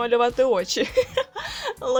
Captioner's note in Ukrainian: ідіотський сміх